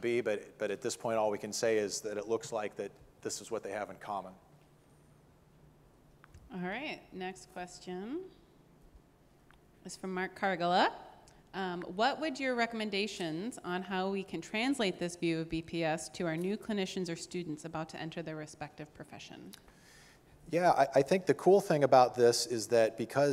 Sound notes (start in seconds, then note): none